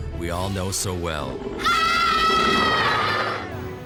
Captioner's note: all scream